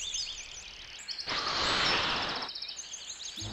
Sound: inhaling sound

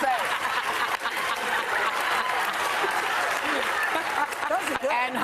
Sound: audience laughing

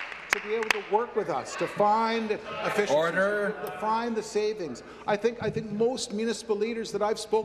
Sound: applause

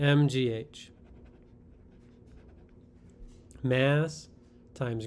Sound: pen scratching

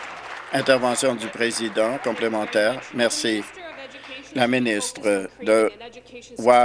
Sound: applause

